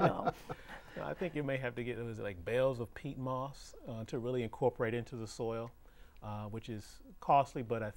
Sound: laughing

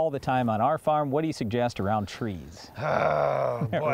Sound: groans

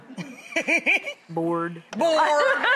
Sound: Rachael laughter

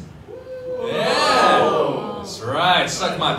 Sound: audience gasps

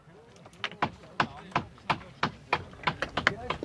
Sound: quiet conversations, hammering

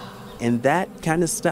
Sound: fwoosh! Fwoosh! Fwoosh! Bee air conditioning kicks in with each wingbeat

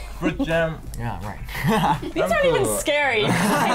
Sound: laughs

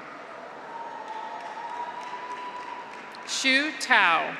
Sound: graduates cheer; audience applauds

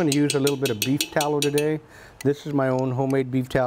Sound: spoon clanking

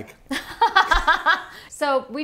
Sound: laughing

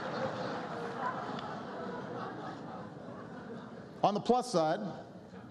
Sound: laughter

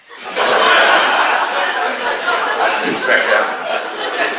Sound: class laughs

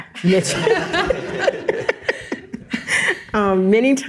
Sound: all chuckle

